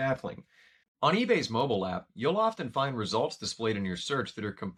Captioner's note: voiceover